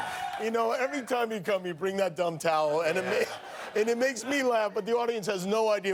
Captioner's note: cheers and applause